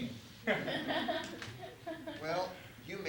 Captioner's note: laughter